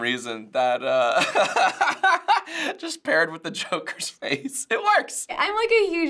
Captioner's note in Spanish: ríe